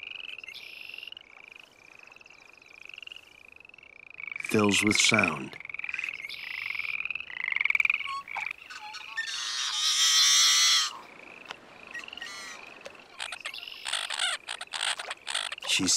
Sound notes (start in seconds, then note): 5.3 frogs singing; 7.3 bird calling; 13.3 birds twittering